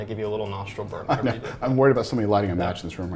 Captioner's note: laughs